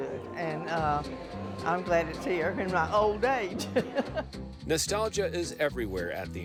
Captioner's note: laughs